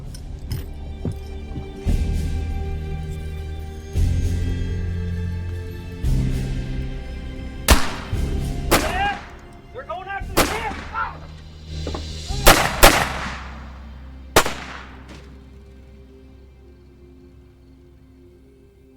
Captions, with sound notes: (tense orchestral music) (guns firing) Yeah, we're going after the kids. (guns firing) (gentle tense music)